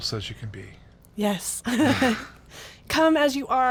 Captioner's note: laughs